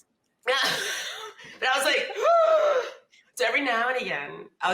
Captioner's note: laughs